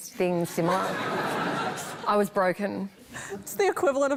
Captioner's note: laughter